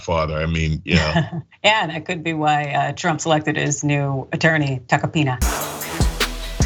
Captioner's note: laugh